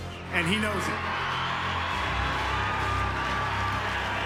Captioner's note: cheering